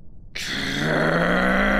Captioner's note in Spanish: Gruñidos